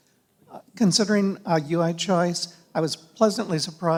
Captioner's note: voiceover